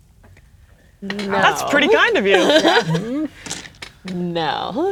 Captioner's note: laughing